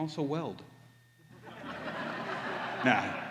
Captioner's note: laughter